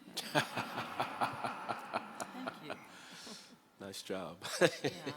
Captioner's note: everyone laughs; chuckles